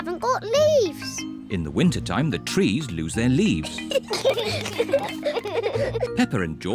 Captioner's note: both giggle